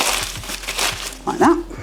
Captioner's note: rustle crunch